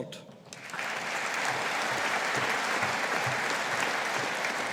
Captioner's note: audience applauding